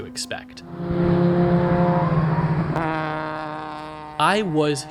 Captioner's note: engine revving